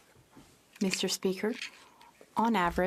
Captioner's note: speaking French